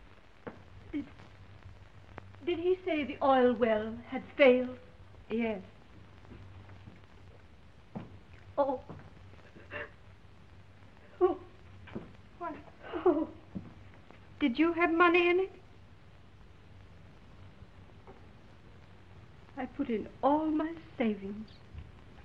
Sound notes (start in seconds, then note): 0.1 shoes clicking; 9.4 sobs